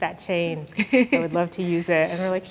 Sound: chuckles

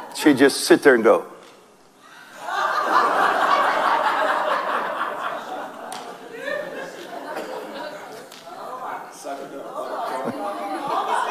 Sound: congregation laughs

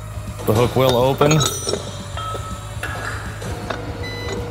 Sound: metal clanking; machine beeps

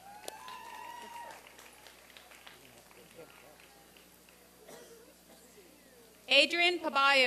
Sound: applause and cheering

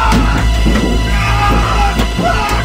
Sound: man screams

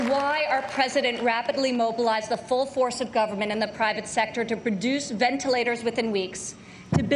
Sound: applause

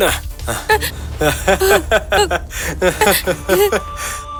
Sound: maniacal laughter

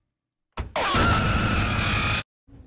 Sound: game screams

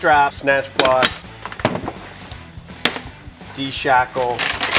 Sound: clanking

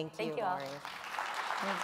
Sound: applause

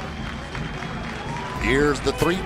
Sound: cheering

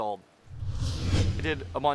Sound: swoosh

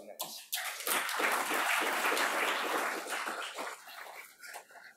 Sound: audience clapping

